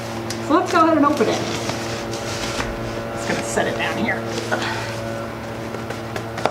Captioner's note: grunts